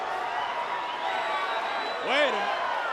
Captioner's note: crowd cheering